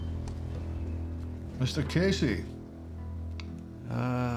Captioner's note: scottish accent